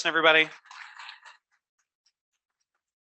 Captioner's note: applause